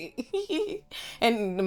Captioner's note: laughing